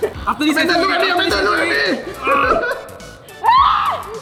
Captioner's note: shouting